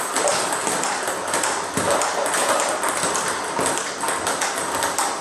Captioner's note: ball ping pong hitting continues